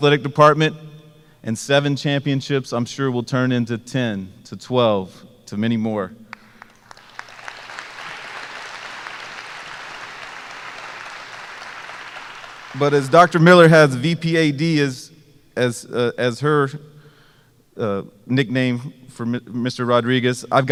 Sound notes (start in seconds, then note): 6.3 applause